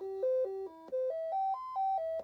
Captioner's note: beeping